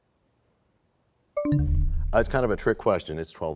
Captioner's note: bell chimes, time expires